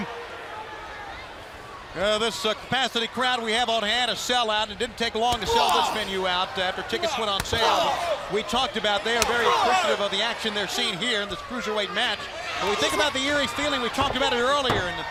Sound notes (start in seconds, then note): 1.5 crowd chatter